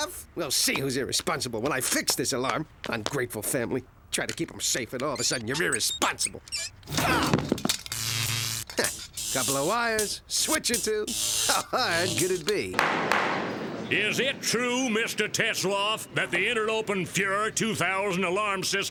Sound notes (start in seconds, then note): 6.6 electrical zapping; 6.9 yells; 12.7 gavel pounding